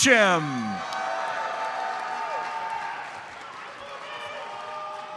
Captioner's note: audience cheers and applauds